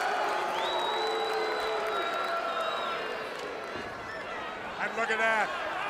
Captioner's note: crowd cheering